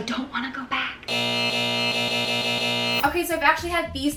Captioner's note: beeps